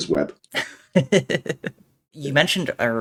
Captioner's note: laughing